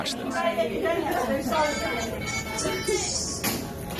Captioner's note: chattering